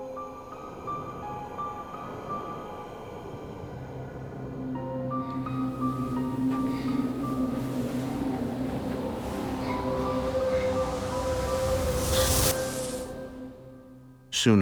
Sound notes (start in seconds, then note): 0.0 crickets chirping; 0.0 ominous music; 6.8 Jacey Re-Enactor gasping; 12.3 swooshing